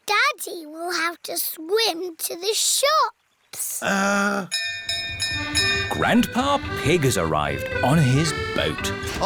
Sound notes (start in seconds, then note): 4.5 bell rings